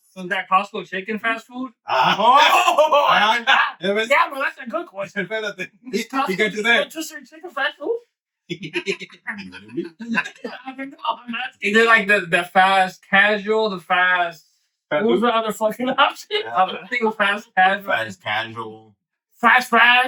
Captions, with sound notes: So is that possible chicken fast food? (All Yelling) Yeah, but that's a good question. You got to do that. But just chicken fast food? (All Laughing) You did like the fast casual, the fast, who's the other fucking option? I don't think a fast casual. Fast casual. Fast fast.